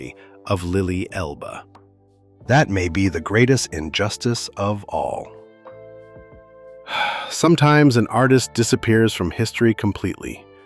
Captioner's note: sighs